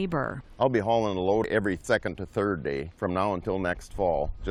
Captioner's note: voice-over